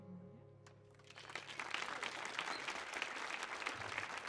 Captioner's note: audience applauds